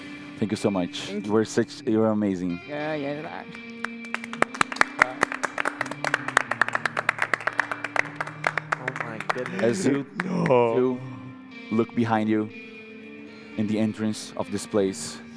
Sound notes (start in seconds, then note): 3.4 clapping